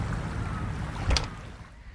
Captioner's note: door opens